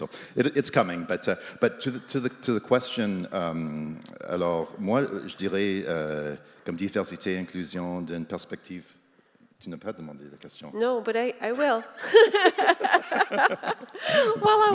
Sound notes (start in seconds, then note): 3.6 speaks French